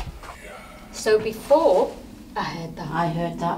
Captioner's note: loud breathing